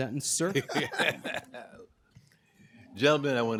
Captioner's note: laughter